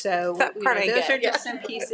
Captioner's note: laughs